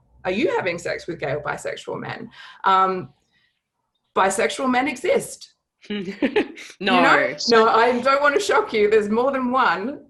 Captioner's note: laugher